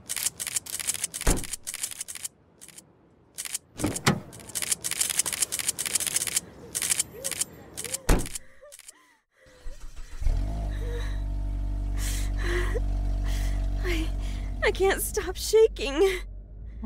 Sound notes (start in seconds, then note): 3.7 car doors open and close; 4.5 car starts